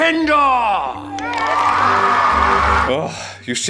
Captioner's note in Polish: oklaski